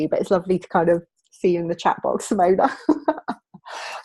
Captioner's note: laughing